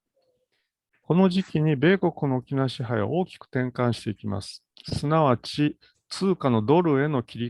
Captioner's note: speaks in Japanese